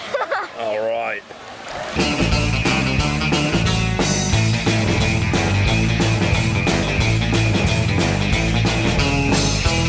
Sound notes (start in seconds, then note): 0.0 laughing; 1.9 upbeat music